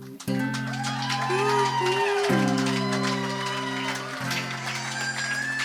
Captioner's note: audience applauding and cheering